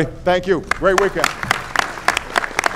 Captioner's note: applause